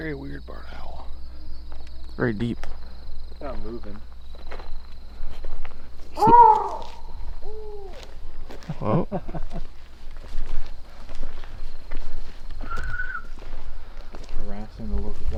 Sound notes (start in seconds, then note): 5.8 owl hoots; 8.6 laughter; 12.5 whistling